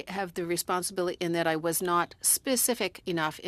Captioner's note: speaking French